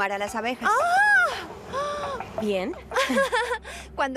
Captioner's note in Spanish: gritando